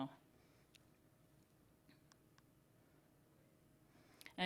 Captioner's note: silence